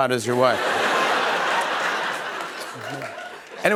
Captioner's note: laughter